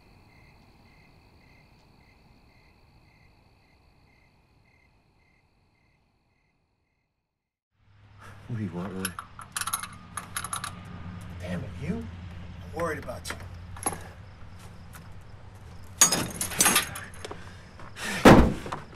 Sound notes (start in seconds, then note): 9.0 ratcheting; 16.0 ratchet clanks and falls; 16.9 frustrated breathing